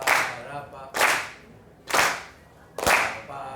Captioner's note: voiceover; clapping